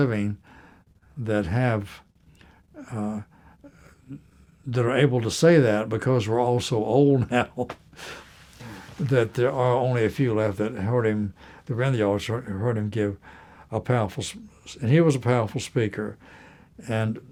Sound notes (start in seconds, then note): 7.2 laughter